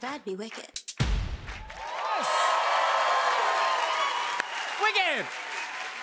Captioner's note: cheers and applause